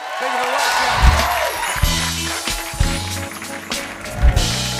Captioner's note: cheering and applause